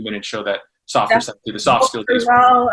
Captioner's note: faintly speaking